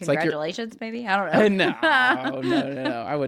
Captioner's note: laughs